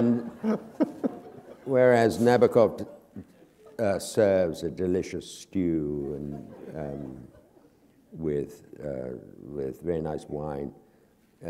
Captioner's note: laughter; chuckle